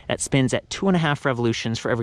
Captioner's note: none